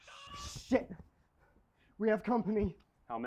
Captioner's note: shouting in distance in foreign language